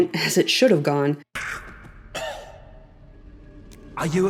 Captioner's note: gag, cough